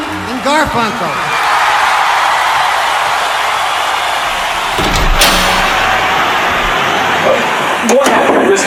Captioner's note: audience applause